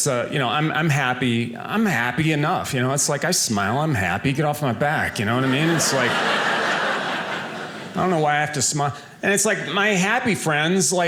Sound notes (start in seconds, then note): 5.2 audience laughing